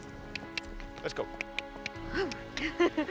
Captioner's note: tongue clicking